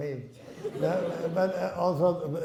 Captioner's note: laughing